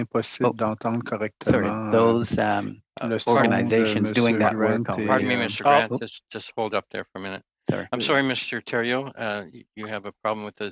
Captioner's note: speaking French